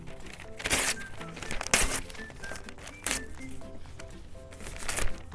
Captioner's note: paper ripping